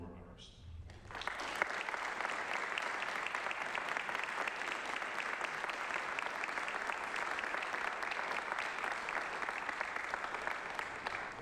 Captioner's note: applause